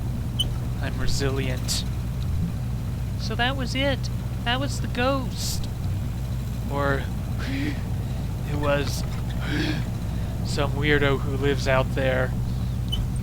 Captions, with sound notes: "I'm resilient." "So that was it! That was the ghost!" "Or *wheeze* it was *wheeze* some weirdo who lives out there